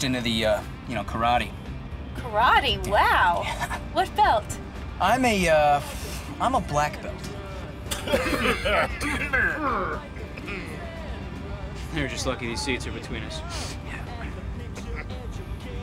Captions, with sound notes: YOU KNOW, KARATE. KARATE ? WOW. WHAT BELT ? YEAH. I'M A, UH-- I'M A BLACK BELT. Q@ [ Choking Back Laughter ] THEY'RE JUST LUCKY THESE SEATS ARE BETWEEN US.